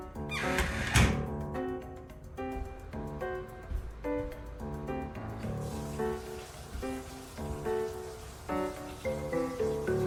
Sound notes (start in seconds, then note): 0.3 door shuts; 5.0 shower running